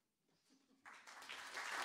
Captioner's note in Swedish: applåder